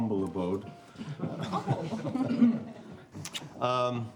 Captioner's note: light laughter